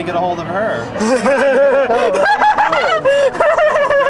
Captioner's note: laughing